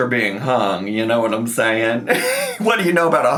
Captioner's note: laughs